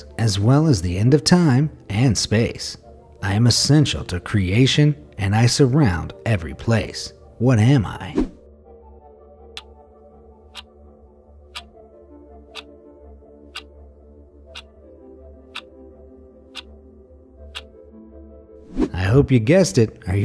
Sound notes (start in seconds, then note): 8.2 air whooshing; 9.6 clock ticking